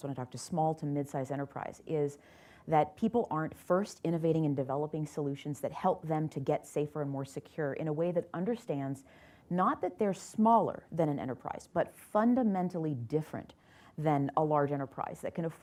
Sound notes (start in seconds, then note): none